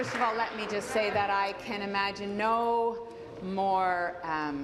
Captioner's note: applause